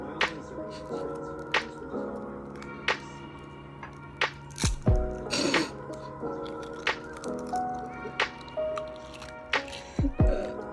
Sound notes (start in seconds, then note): 5.2 laughing